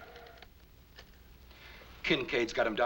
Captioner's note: none